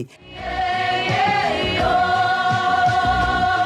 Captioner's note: all vocalize